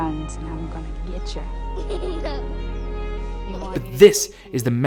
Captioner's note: gleeful laughter